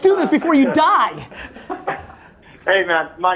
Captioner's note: group laughter